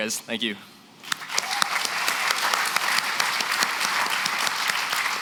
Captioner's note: applause